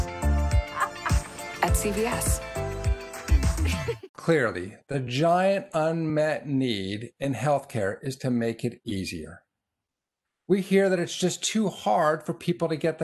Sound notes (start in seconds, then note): 0.0 upbeat music; 3.2 laughs